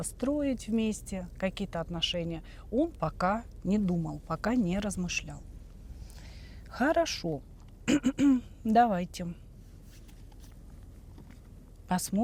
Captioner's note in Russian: откашливается